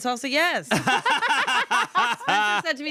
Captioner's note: everyone laughs